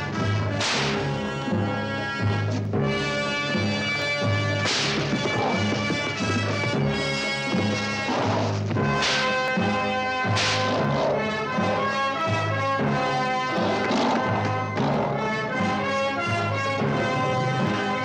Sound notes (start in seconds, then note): 0.5 whip cracking; 8.6 lions snarling